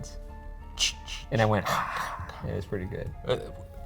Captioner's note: sighs